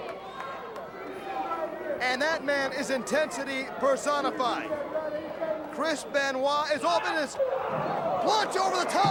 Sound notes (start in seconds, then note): 1.0 crowd chatter